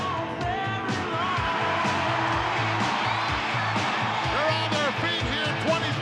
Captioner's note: audience cheering